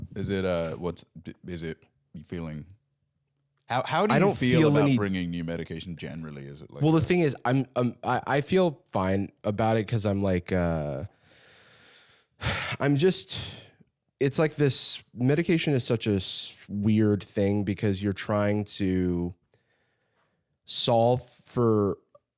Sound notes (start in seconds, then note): 12.4 sighs